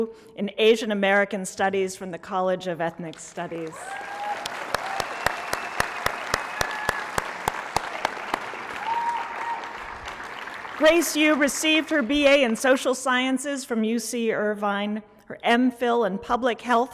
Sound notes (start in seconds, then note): 3.1 applause